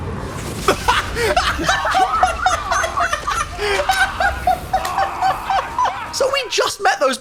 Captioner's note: laughs